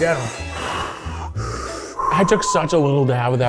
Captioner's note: both breathing heavily